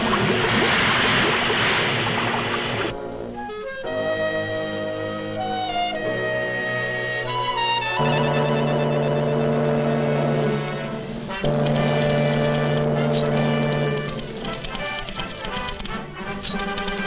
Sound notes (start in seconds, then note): 0.0 steam hisses; 4.1 light music; 8.2 ship horn blows; 11.5 triumphant music; 11.5 typewriter clacking